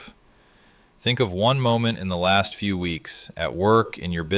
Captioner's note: thoughtful